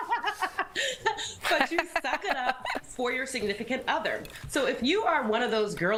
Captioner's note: laughter